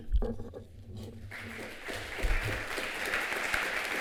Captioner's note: applause